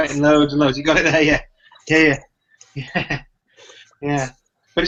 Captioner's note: laughs